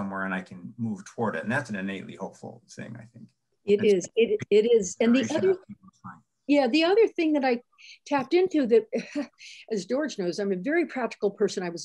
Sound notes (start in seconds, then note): 5.2 murmurs